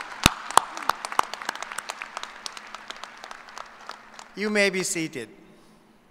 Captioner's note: applause